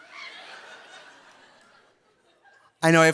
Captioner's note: audience laughing